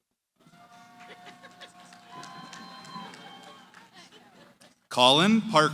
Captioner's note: cheering